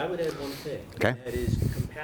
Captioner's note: voiceover